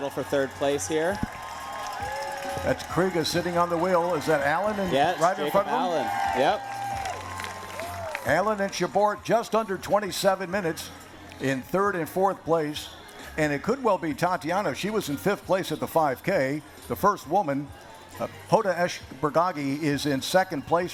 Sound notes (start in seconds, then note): 6.8 cheering; 7.6 applause